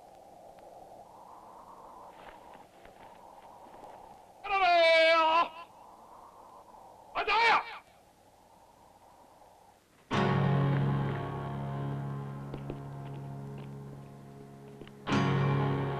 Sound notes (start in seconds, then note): 4.2 yells in foreign language; 10.2 intense music